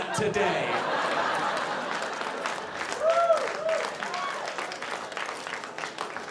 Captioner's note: audience cheering